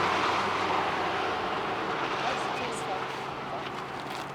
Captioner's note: crew chattering